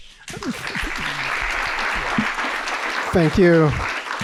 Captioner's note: audience applauds